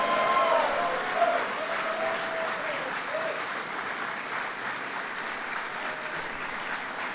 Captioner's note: applause